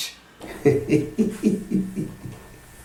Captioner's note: laughing